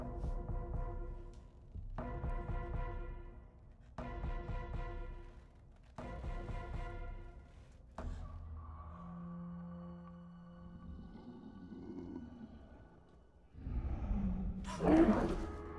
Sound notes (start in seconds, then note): 2.5 climactic music; 10.6 dinosaur growls